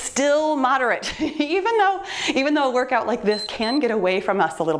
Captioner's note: timer beeps